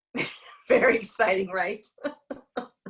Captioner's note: laughs